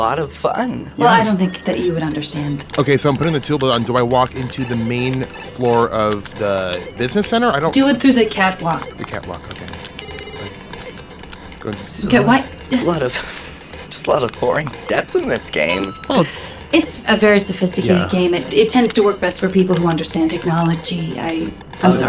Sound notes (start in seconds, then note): 16.7 laughs